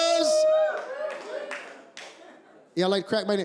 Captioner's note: cheers